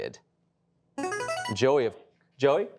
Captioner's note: buzzer rings